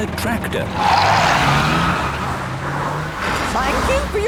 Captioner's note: tires screeching